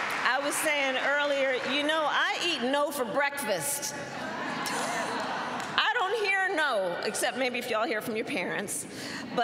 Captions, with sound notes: I was saying earlier, "You know, I eat 'no' for breakfast." (Laughter.) I don't hear "no," except maybe if you all hear from your parents.